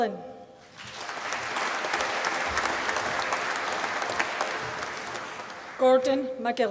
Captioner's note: applause